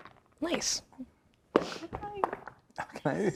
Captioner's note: dice rolling; chuckling